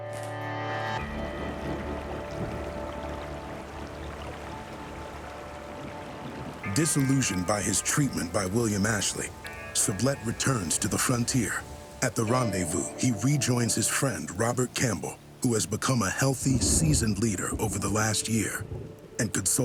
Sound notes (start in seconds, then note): 1.2 water flowing